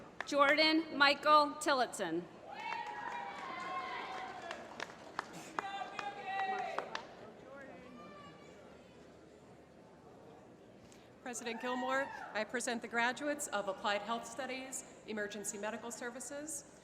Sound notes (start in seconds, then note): 2.5 applause